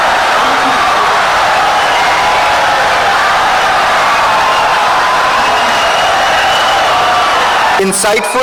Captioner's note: wild applause and cheering for 17 seconds